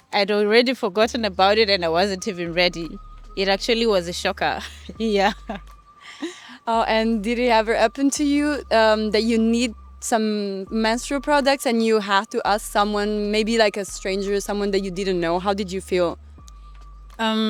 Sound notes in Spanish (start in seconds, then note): 6.0 Ríe